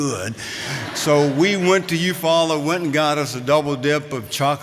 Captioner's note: laughter